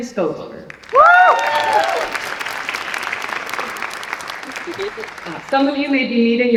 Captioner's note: applause and cheering